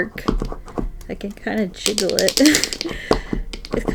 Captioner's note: laughs